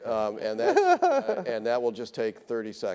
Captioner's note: laughing